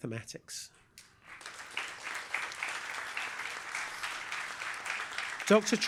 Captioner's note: applause